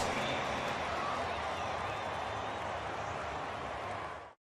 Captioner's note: cheering